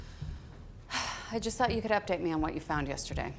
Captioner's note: sighs